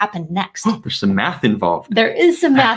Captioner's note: gasps